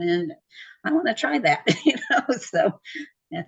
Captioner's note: laughs